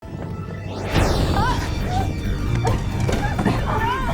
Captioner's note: thunder crashing; screaming